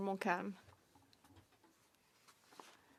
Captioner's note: speaking French